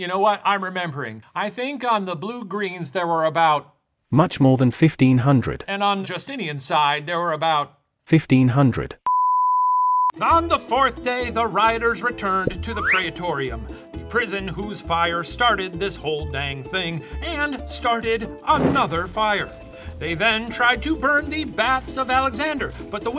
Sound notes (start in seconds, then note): 4.3 voiceover; 8.3 voiceover; 9.0 screen beeping